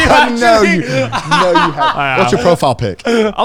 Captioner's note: laughing